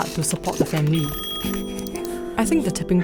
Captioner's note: office buzz